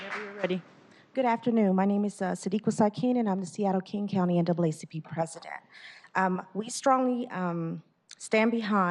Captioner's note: applause